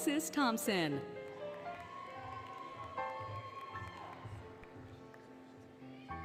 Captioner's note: applause, Cheering, Music